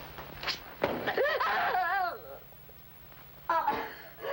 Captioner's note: groaning